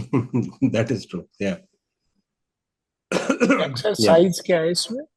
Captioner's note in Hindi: गला साफ़ करने की आवाज़